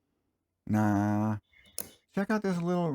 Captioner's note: click